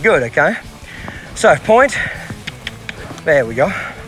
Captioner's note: mouth clicking